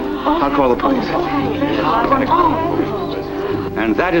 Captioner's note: background chatter